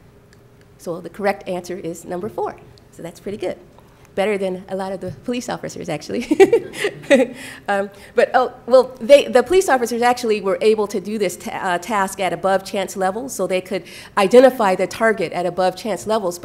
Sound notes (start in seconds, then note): 6.2 laughter; 6.2 giggle